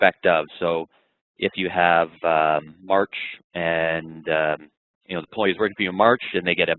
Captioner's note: voice muffled